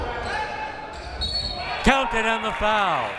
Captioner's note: whistle